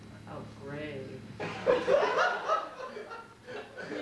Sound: laughter

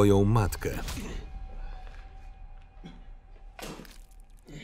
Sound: punching; spitting

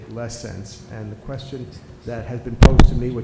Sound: ~audio distortion~

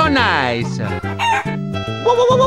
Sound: Cockington clucks

